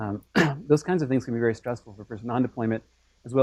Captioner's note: cough